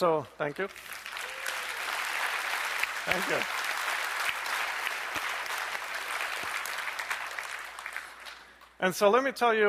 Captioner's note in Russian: аплодисменты